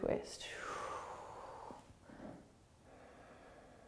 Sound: exhaling

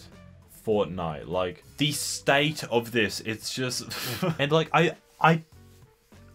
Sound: breaths heavily OwO

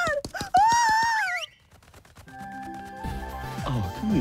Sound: whistle

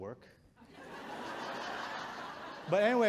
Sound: audience chuckles

